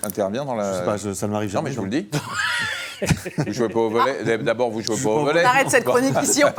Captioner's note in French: rires; rires